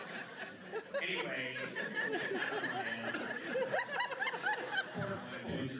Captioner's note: laughter